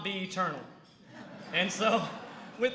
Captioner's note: laughter